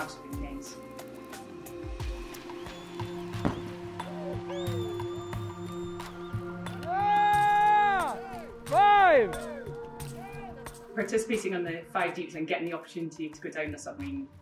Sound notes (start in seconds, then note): 1.4 cheering